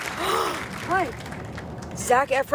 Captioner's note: gasps